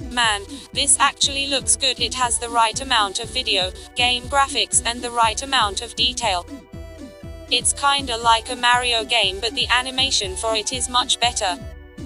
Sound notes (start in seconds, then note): 6.5 robotic sniff